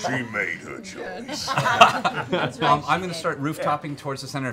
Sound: laughing

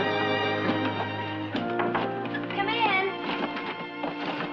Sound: knocking on door

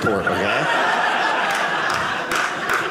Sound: audience laughing

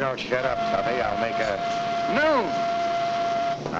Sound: whistle blowing

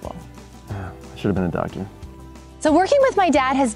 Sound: sighs

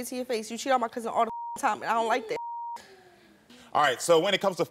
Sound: beep

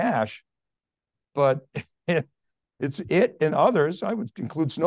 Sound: chuckling

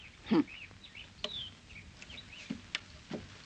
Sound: Linda scoffs

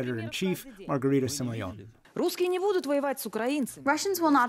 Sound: through translator

